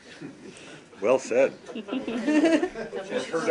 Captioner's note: laughter